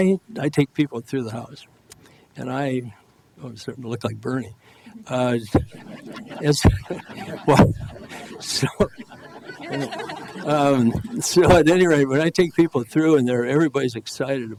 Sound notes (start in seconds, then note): 5.4 crowd laughs